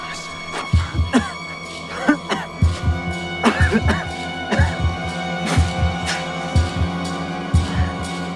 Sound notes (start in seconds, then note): 1.3 Agoston coughing